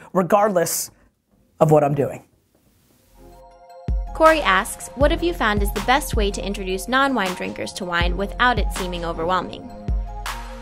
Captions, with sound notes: regardless of what I'm doing. - [Voiceover] Cory asks, "What have you found is the best "way to introduce non-wine drinkers to wine "without it seeming overwhelming?"